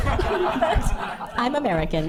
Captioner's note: audience laughing